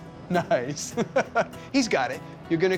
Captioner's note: chuckling